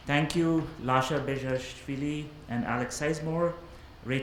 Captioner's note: none